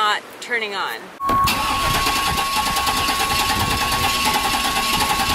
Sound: engine ignition studders

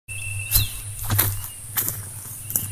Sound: footsteps

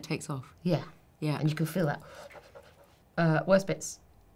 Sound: inhaling and exhaling

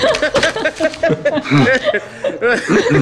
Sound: laughing

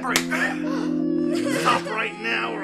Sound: slap landing; all gasping; sobbing

